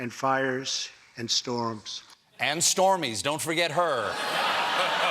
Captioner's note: laughter